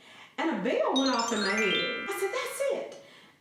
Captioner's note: chimes ring